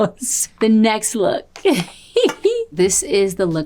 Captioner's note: laughs; giggles